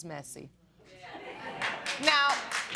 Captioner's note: applause